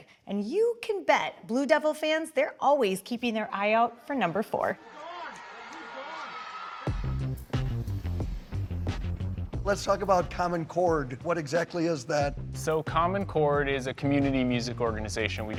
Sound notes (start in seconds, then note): 4.7 crowd cheering; 7.2 deep rhythmic music